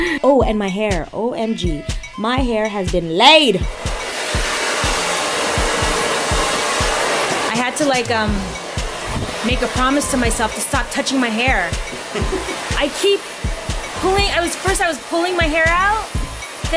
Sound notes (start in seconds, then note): 3.7 blow dryer